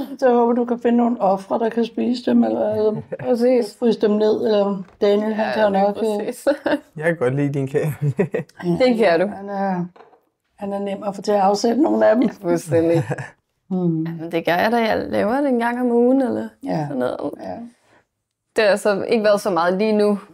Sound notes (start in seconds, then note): 12.1 laughs